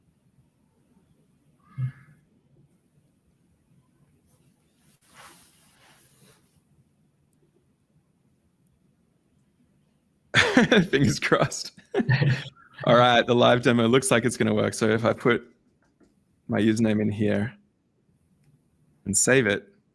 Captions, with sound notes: Fingers crossed. (laughing) All right, the live demo looks like it's gonna work. So if I put my username in here and save it,